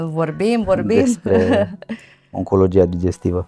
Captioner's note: laughter